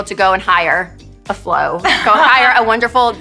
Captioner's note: laughing